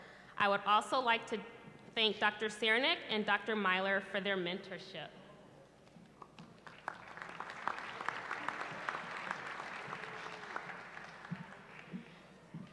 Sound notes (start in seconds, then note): 6.3 applause